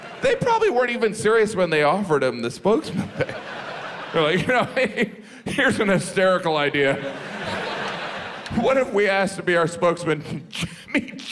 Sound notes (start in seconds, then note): 6.7 audience laughs